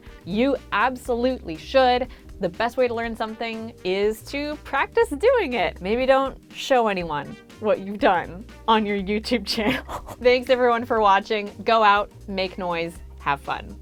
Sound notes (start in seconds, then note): 9.6 laughing